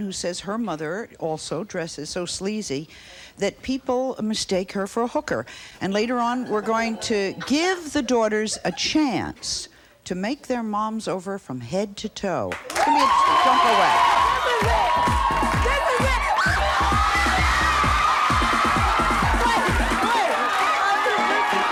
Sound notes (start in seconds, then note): 14.8 audience applauds; 15.6 upbeat electronic music; 20.4 screams